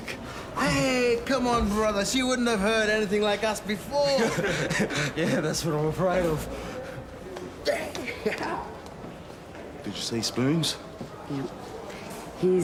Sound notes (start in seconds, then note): 4.1 laughs nervously; 7.7 laughs